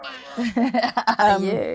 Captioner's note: baby crying; laughing